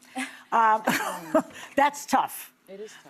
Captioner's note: laughs